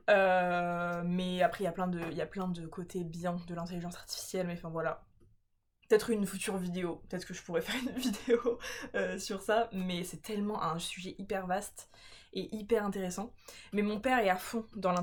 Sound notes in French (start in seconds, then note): 7.6 rires